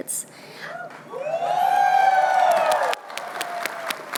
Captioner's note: cheering